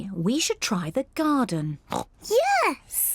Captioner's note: oinks